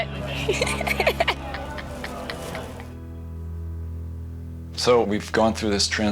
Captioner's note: laughs